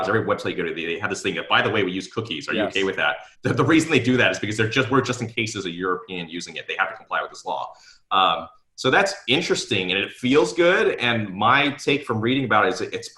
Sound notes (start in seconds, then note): 2.5 giggles